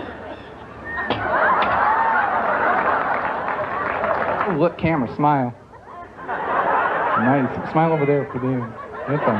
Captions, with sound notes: [audience laughs louder and applause] >> Oh look camera, smile. [audience laughs] Nice, smile over there for them.